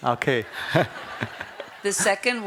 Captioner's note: laughter